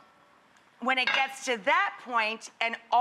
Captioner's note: pot lid clanks